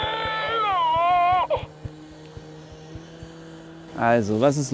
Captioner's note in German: Baby schreit